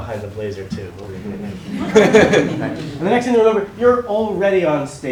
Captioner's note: laugh